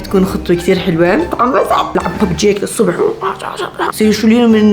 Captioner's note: battle noises